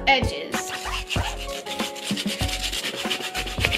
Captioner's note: scratching